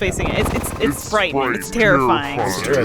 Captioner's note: audio distortion